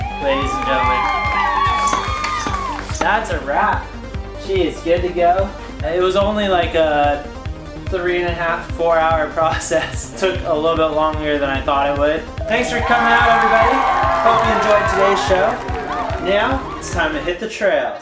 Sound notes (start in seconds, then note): 0.0 audience cheering; 12.4 audience cheering